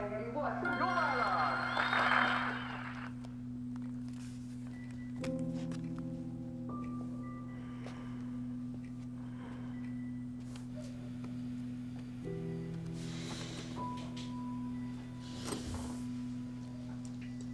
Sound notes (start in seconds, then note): 1.4 clapping; 2.7 TV chatter stops